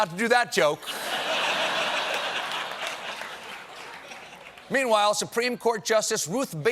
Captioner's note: laughter